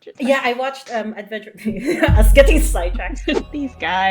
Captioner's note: laughs